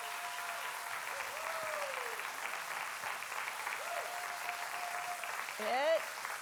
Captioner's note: congregation cheering and applauding